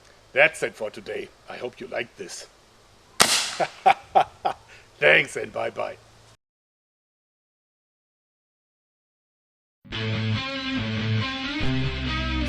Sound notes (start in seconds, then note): 3.2 shot; 3.5 dirty laugh